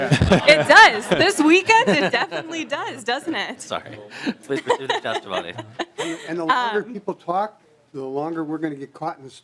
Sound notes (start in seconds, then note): 4.4 laughter